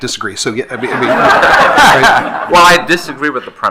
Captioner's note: attendees laughing